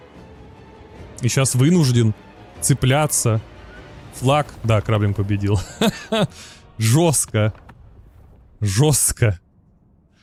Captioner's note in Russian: смех